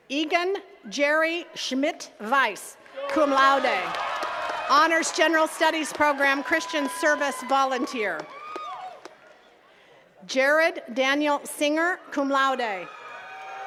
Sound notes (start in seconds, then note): 2.8 attendees cheering and clapping; 8.6 attendees cheering; 12.8 attendees cheering and clapping